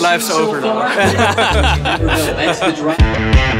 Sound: laugh; upbeat rock music

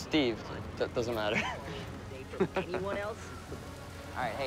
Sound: laughing

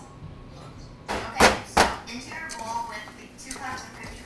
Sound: rolling pin pounding

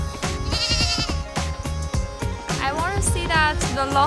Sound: goat bleating

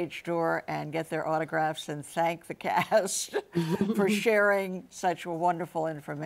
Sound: laughs

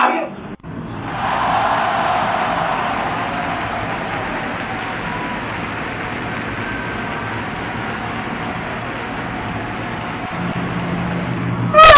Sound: cheering

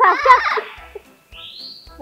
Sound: chuckled

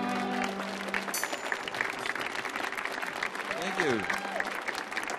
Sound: audience applauding

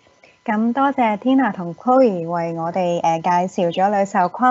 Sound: Cantonese

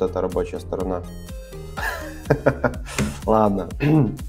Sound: laughing

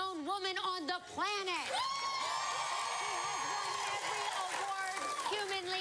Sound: cheering and applause

